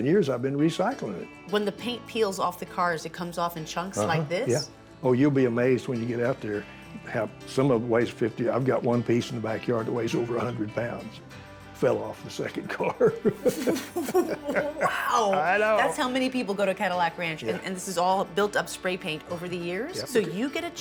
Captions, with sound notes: And for the last 11 years, I've been recycling it. -When the paint peels off the cars, it comes off in chunks like this? -Oh, you'll be amazed when you get out there. How -- Some of the ways 50. I've got one piece in the backyard that weighs over 100 pounds, fell off the second car. [ Laughs ] -Wow. That's how many people go to Cadillac Ranch, and this is all built up spray paint over the years.